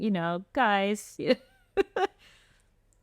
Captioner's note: laughter